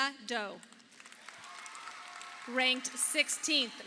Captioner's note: audience applauding